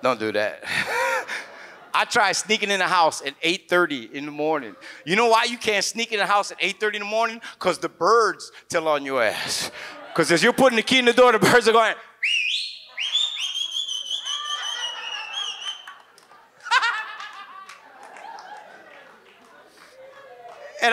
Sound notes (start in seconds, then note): 0.7 chuckles; 0.7 audience laughs; 9.6 audience laughs; 12.2 whistles; 13.0 audience laughs; 16.6 laughs; 16.7 audience laughs